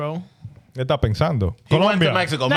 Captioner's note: speaking In Foreign Language